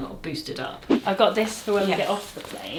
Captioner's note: screen whooshing